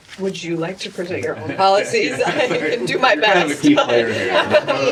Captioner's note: laughter